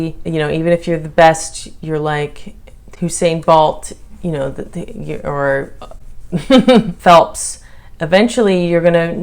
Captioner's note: chuckle